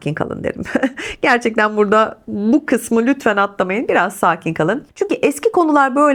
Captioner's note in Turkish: kahkaha